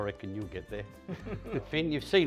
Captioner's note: both laughing